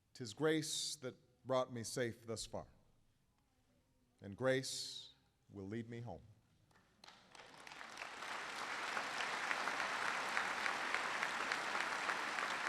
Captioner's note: applause